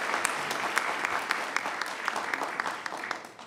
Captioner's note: applause